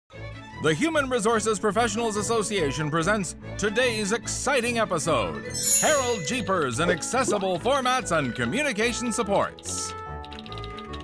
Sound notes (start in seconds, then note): 0.1 upbeat music; 5.5 chimes